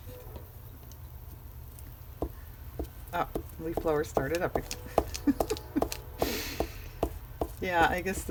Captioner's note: laughs